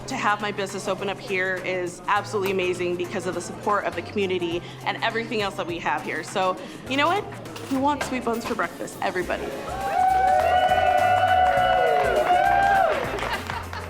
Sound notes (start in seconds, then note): 9.6 cheers and applause